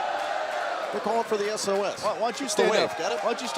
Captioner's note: crowd cheering